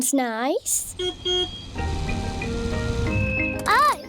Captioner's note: car horn beeps